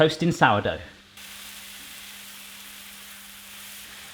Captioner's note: sizzling